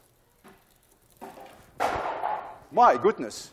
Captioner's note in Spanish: La lata suena, ruidos en el suelo